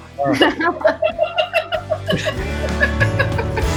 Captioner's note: group laughing; upbeat music